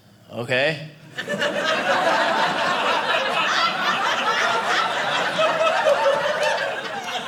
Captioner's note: audience laughing